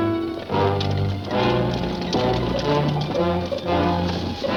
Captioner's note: cart rattling